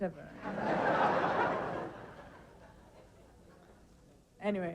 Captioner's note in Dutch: publiek lacht